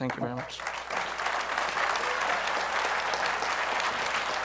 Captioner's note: applause